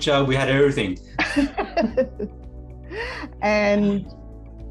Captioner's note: laughing